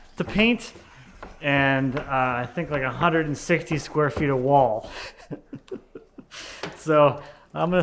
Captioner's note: laughs